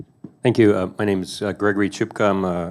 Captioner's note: voiceover